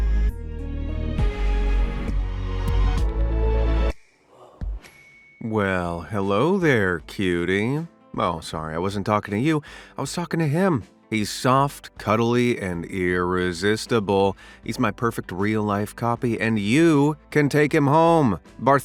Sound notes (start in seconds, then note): 0.0 light suspenseful music; 4.8 bell dings